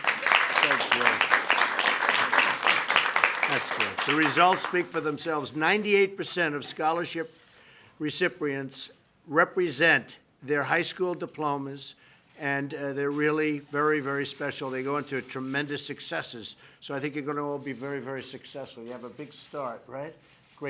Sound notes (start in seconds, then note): 1.5 applause